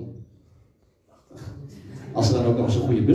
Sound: laughter

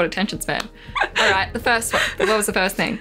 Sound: laughs

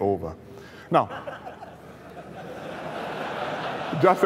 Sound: laughter

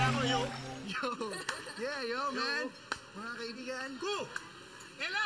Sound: laughs

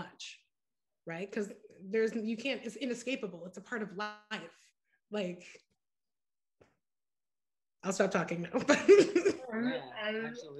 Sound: laughter

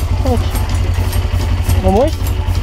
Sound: motor

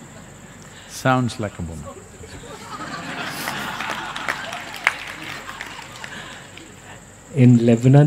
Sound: laughs; laughter/Applause

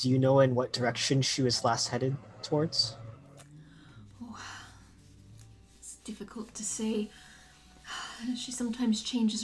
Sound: sighs

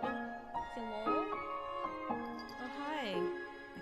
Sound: cat bells return again

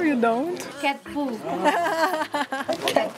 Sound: laughs

